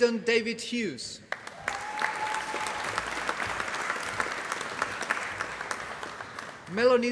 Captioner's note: applause